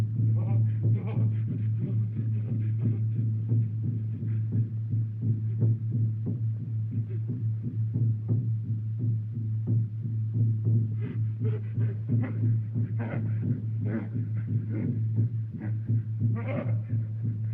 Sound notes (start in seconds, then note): 10.9 panting